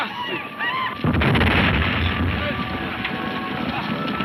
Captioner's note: men shouting; explosion booming